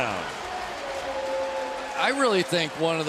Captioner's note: pa announcement